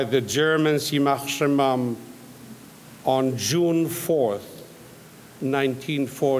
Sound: speaks in foreign language

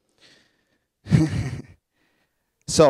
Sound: laughing

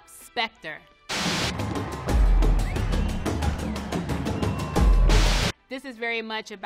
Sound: lively thumping music; crowd cheering

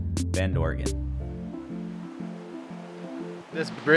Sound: river roaring

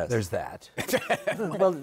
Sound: laughs

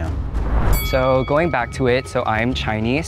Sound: bell dings

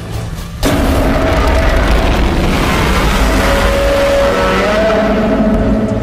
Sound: Godzilla Minus One roars

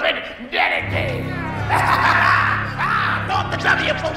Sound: evil laughter

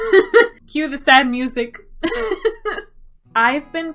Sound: laughs

